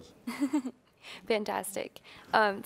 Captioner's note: laughs